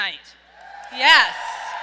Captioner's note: audience cheers